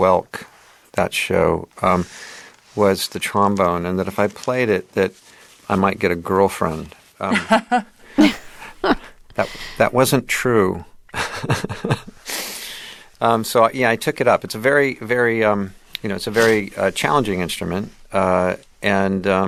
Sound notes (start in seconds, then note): 7.2 laughter; 10.5 laughter